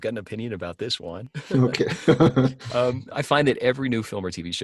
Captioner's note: laughing